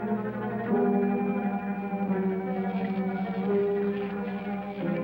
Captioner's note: electricity crackling